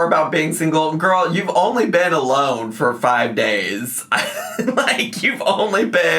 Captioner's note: laughs